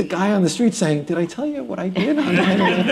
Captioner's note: laughter